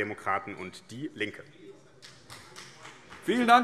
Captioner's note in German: Beifall